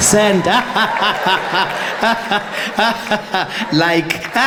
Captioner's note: Jacob Zuma laughing